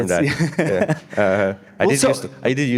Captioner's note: laughing